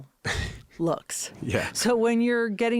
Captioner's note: Josh laughing